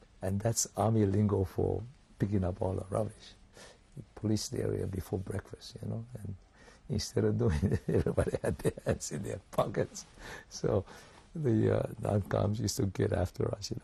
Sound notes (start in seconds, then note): 7.5 laughs